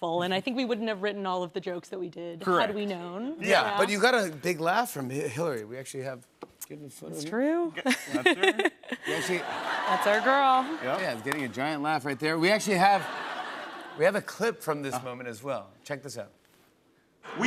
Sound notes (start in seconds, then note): 7.8 laughter